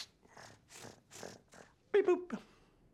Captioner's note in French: imitation de ronronnement